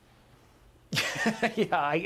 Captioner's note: laughter